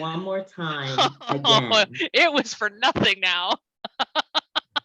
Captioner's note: laughs